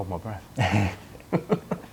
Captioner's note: laughter